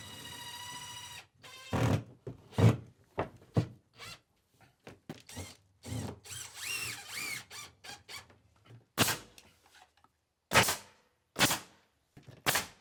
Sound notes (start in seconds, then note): 0.0 drill whirring; 9.1 nail gun hissing